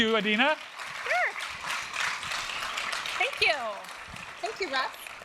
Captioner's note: applause